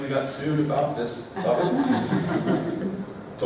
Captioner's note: laughter